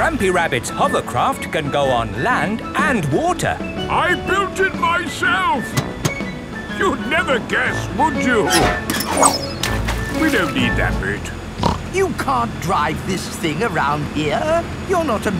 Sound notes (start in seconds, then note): 9.6 splashes; 11.6 snorts